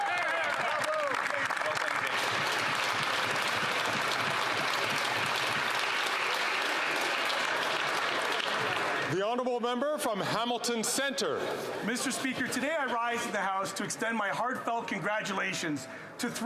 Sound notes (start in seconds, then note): 4.9 some Applause